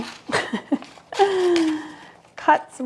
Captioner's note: laughs